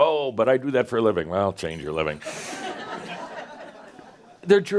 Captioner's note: laughter